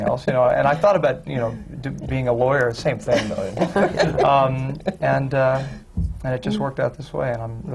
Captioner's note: laughter